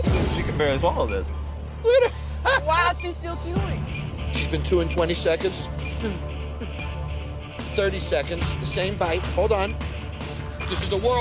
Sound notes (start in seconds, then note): 1.8 laughing; 2.1 timer beeping; 4.9 timer beeping